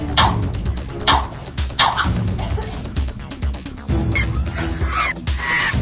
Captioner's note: whip, whip, swoop; Eileen coughing; high pitched screech